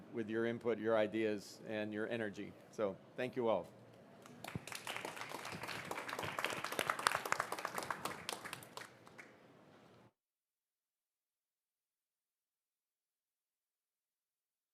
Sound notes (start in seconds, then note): 4.2 applauding